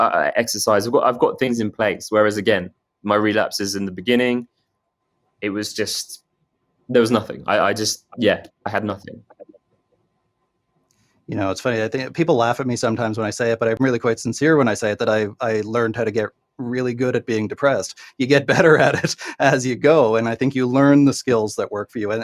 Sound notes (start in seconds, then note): 18.2 laughing